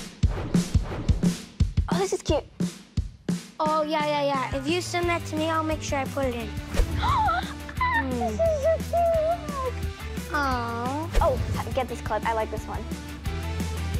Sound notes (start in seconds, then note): 0.2 upbeat music playing; 7.2 gasps